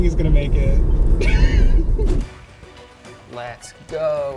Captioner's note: laughs